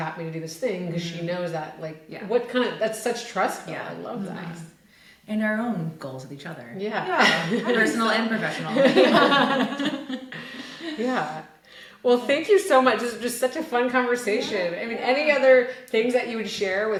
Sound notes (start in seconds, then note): 9.0 group laughing